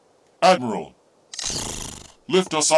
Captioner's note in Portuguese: Purrs